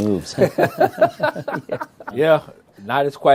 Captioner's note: laughter